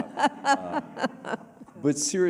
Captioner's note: laughter